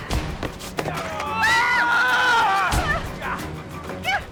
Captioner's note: screaming; grunting